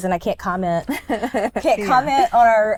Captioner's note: chuckles